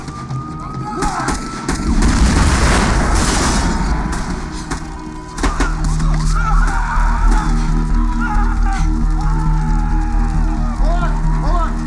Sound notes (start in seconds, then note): 5.5 yells; 6.1 screams